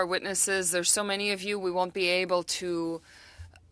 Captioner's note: speaking French